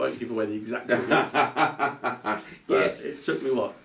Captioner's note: laughs